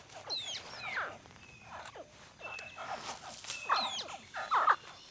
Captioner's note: baby crocodiles chirp